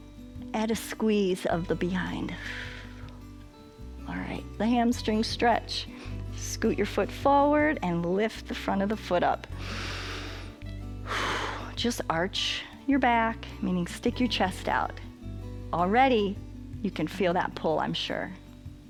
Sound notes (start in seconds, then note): 2.4 exhales; 9.5 inhales and exhales